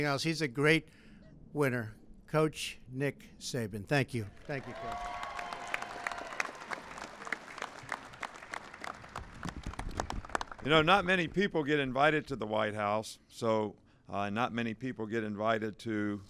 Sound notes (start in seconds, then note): 6.1 applause